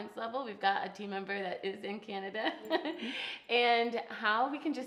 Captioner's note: laughs